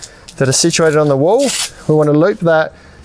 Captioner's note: velcro tabs scotching